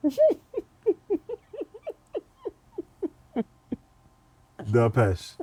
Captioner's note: laughter